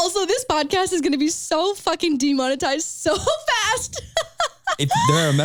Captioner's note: laughs